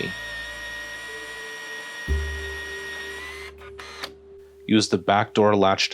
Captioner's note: motor sounds